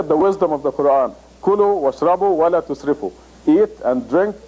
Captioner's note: Arabic